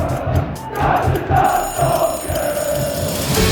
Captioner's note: alarm clock rings